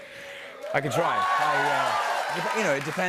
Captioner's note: cheers and applause